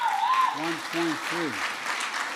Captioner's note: applause